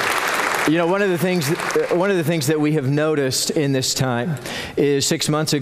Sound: applause

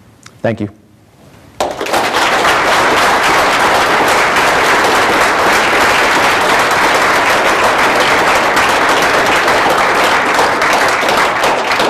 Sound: applause

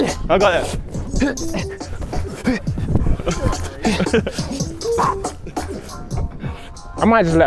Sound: smooth instrumental music; men grunting

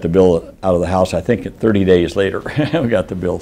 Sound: laughing

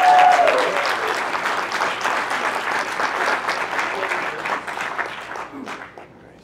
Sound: applause

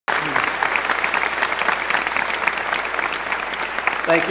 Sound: applause

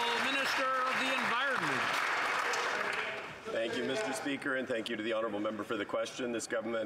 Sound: some Applause

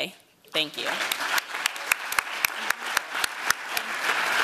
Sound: applause

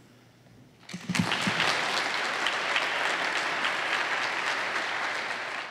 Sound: applause

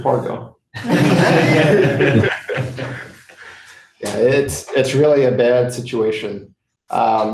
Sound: laughter

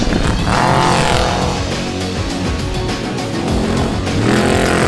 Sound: engine revving

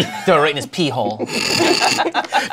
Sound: laughter

